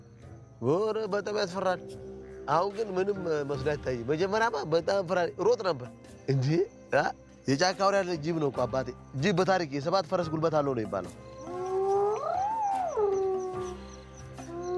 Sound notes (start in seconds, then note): 11.4 hyenas growling